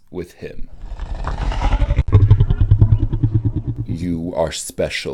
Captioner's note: alien growling